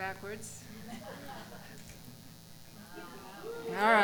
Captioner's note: cheering